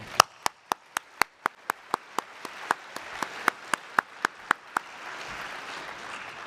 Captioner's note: applause